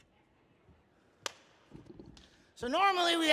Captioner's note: hands clapping